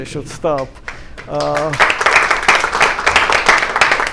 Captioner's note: applause